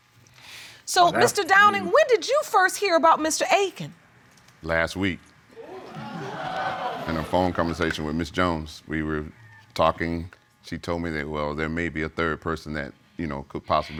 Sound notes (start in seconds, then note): 5.6 audience groans